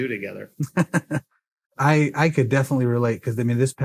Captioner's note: laughs